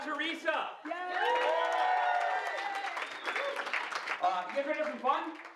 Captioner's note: audience applause